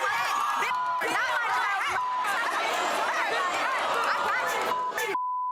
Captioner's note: screaming and arguing